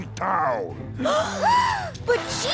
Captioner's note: all gasp